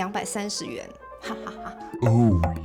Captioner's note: laughing out of control